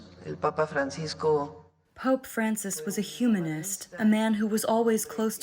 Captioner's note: through translator